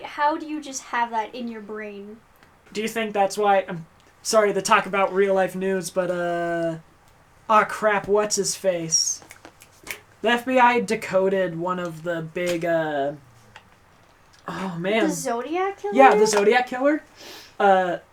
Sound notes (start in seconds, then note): 9.2 snaps fingers